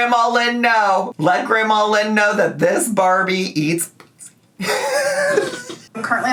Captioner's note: laughs